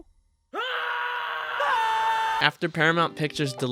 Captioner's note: screaming